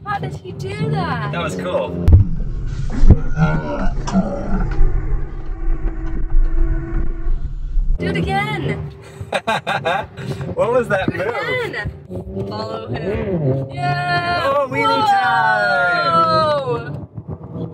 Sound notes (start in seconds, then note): 0.0 tires squealing; 9.1 laughs; 13.2 motorcycle revs